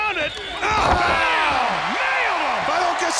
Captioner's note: crowd cheering